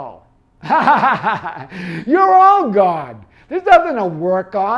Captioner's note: laughs